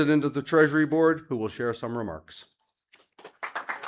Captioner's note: applause